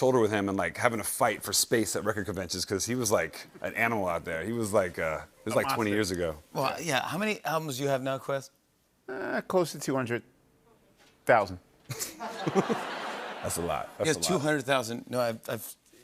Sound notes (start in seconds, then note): 11.8 laughter